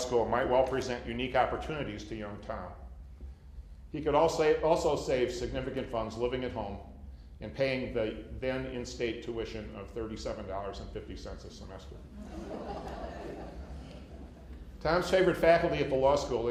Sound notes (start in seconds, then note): 12.1 laughter